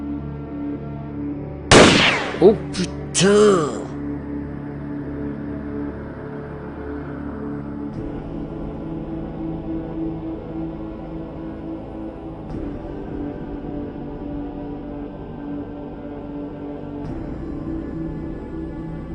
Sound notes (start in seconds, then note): 1.7 gun firing; 2.4 speaking in French; 8.7 melodic haunting music